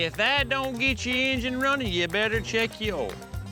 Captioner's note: none